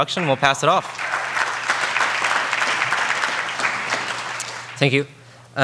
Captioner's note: audience applauding